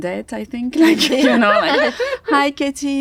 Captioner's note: Katie and Chloe laugh